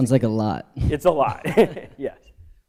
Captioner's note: laughter